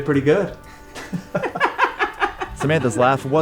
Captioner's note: both laughing